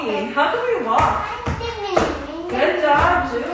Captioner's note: heavy footsteps